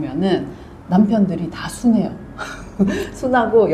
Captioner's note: laughs